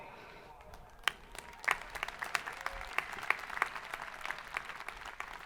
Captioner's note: crowd applauding